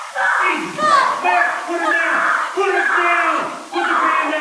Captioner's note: screaming